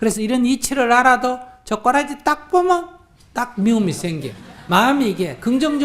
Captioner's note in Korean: 청중 웃음